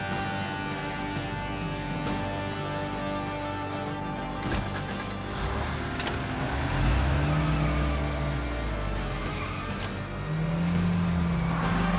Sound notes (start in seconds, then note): 4.8 car engine rumbles; 4.8 dramatic music